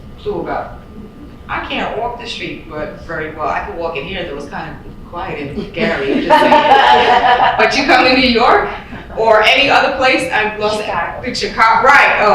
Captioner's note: laughter